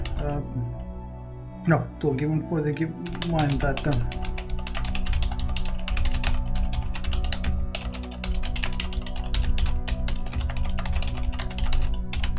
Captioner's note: more intense typing